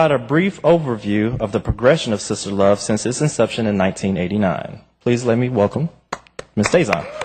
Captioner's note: applause